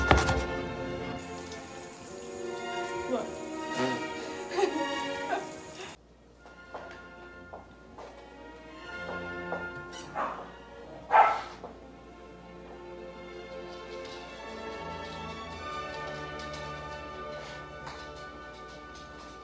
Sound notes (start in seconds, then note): 4.3 laugh; 11.0 dog bark